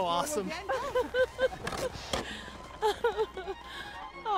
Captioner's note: laughter